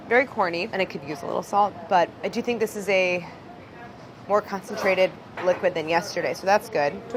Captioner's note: none